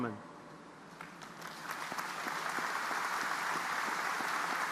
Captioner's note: audience applauding